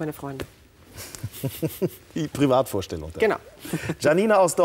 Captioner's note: giggles